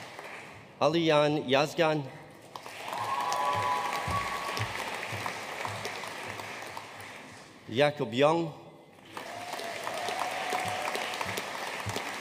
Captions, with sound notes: Alican Yazgan. (AUDIENCE CHEERING AND APPLAUDING) Jakob Young. (AUDIENCE APPLAUDING)